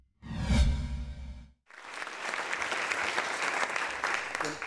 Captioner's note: audience clapping